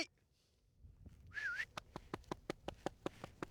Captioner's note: whistles